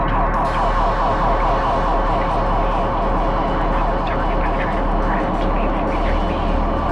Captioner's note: narrator, distorted